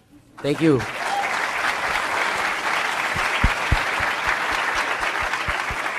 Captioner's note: applause